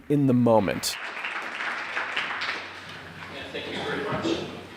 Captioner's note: applause